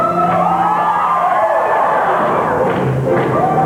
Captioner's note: music, cheering, whooping